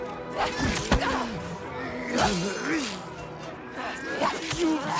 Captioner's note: grunting